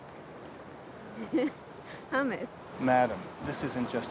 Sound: laughing

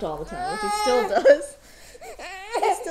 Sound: baby crying

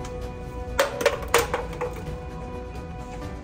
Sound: bottles fall on the ground

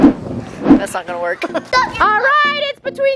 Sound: chuckle

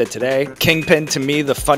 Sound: bell dings

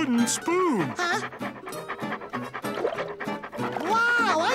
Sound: panting

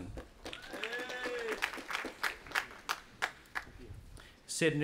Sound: audience applauding

